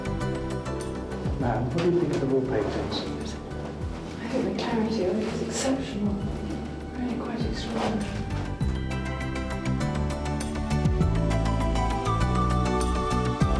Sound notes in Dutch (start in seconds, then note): 1.9 onduidelijk gebabbel; 9.2 lichte vrolijke muziek